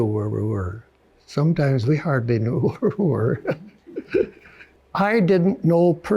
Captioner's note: chuckles